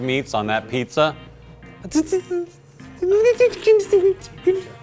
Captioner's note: wincing noises